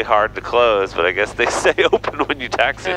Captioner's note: laughs